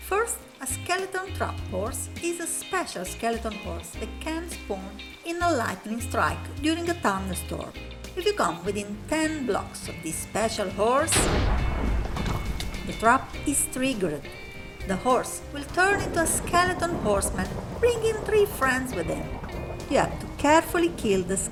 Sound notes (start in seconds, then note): 11.1 thunder strike